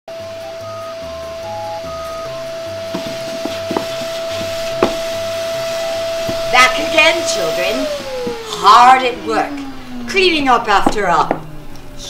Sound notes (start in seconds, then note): 0.2 vacuum sucking; 7.9 vacuum stops